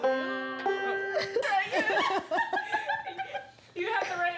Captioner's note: group laughs